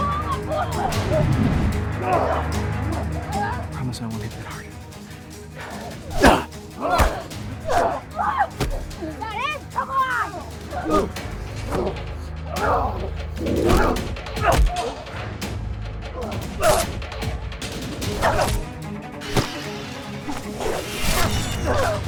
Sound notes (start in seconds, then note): 5.5 grunting; 6.8 smacking; 9.7 grunting; 13.4 smacking; 16.9 dramatic orchestral music; 18.2 grunting